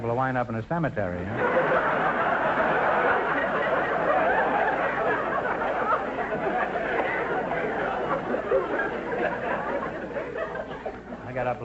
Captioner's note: audience laughter